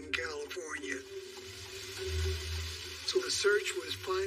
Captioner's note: rain spraying